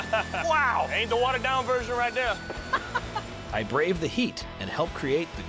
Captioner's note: laughs; laughs